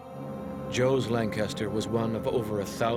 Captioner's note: voiceover